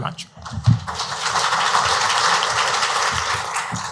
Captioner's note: audience clapping